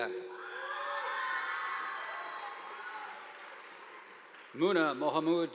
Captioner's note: audience applauding